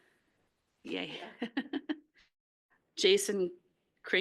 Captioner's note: laughs